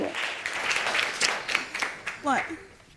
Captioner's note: sniffling